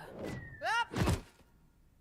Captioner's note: slamming into ground